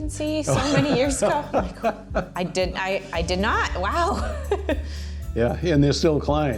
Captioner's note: laughing